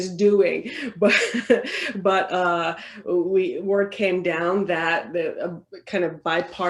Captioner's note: laughs